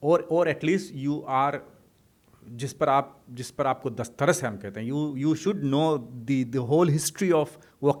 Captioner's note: hindi